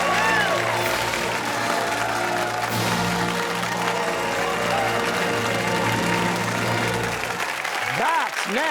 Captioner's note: fanfare; cheers and applause